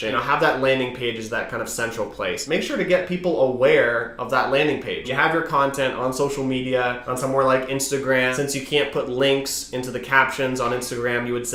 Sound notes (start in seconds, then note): none